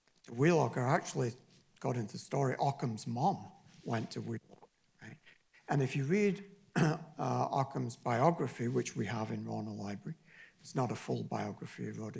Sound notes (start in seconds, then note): 3.8 distorted audio